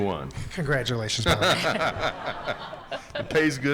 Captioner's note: attendees laughing